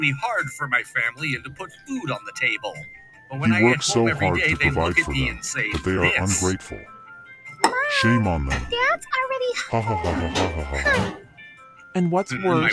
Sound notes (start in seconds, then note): 9.5 laughs